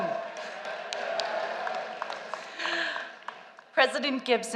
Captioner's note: applause